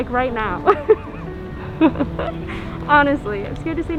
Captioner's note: laughing